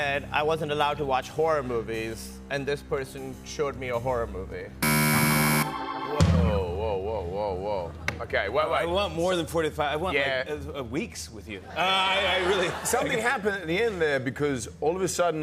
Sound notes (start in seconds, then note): 4.8 buzzer; 11.7 laughter